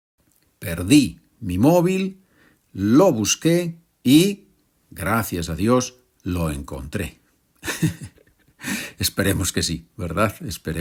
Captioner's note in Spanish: risas